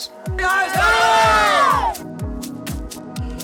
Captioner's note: cheers